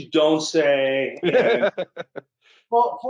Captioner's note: laughs